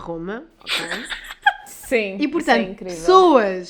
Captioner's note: laughs